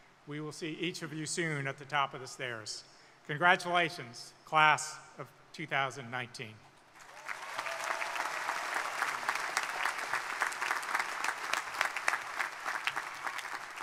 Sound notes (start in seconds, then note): 7.0 crowd applauding; 7.0 crowd cheering